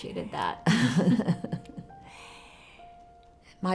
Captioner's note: Mrs. LeCompte laughs